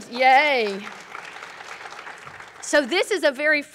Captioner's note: applause